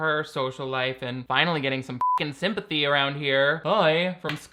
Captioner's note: beep